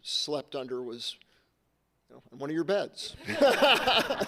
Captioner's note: laughs